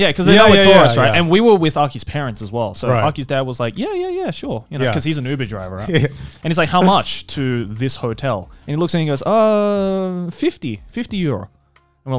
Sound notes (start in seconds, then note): 4.8 laughing